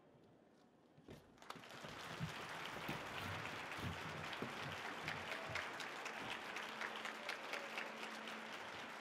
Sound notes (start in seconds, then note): 1.4 audience applauding